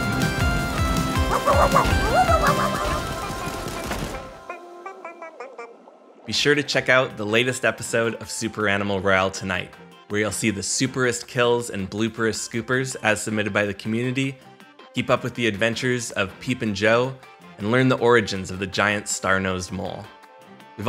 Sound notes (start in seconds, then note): 1.2 dog barking